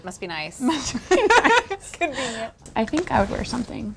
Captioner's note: ladies laughing